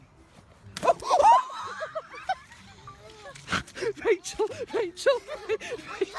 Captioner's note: woman laughing